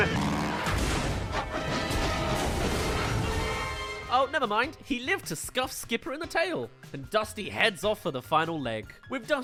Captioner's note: crash